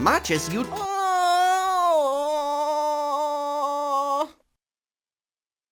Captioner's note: groans